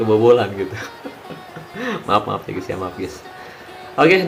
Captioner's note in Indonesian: tertawa